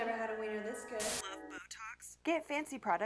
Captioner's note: static